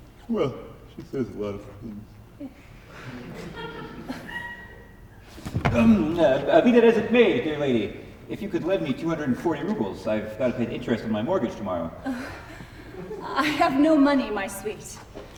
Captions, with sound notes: well, she says a lot of things. [audience laughs softly] Um, uh, be that as it may, dear lady, if you could lend me 240 roubles I’ve got to pay the interest on my mortgage tomorrow. [sighs] I have no money, my sweet.